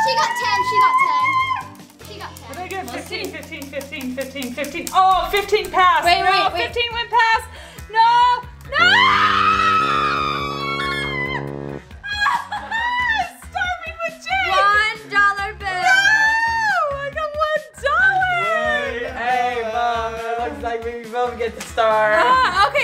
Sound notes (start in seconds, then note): 8.7 screaming; 10.1 sad noise